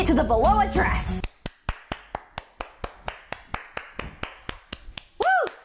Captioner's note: clap clap clap clap clap